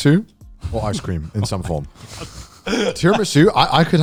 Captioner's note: laughing